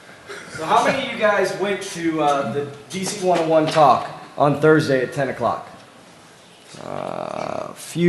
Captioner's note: off mic